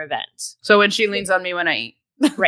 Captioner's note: laughs